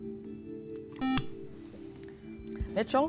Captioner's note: buzzer